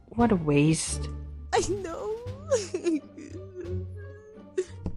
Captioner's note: sob